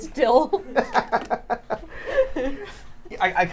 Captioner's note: laughs